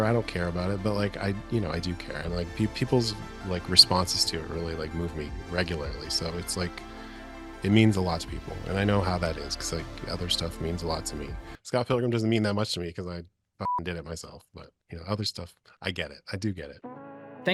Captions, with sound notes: I don't care about it, but like I do care and like people's like responses to it really like move me regularly. So it's like it means a lot to people, and I know how that is because like other stuff means a lot to me. Scott Pilgrim doesn't mean that much to me 'cause I (beep) did it myself. But you know, other stuff, I get it. I do get it.